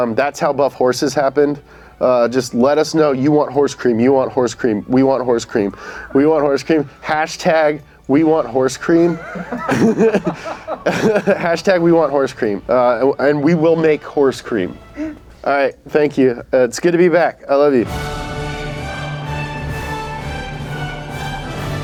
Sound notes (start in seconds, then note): 9.1 laughs; 17.8 dramatic orchestral music